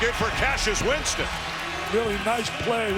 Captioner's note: crowd cheers